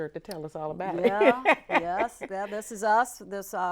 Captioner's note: laughs